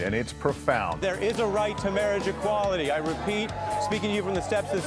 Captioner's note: crowds cheering